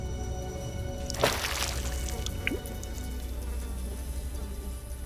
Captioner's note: splash of water and flies buzzing